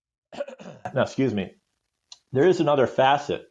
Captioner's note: coughs